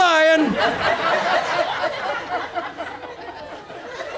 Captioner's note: audience laughs